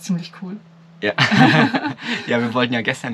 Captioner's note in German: beide lachen